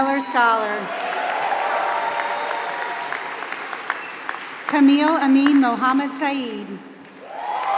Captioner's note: applause; applause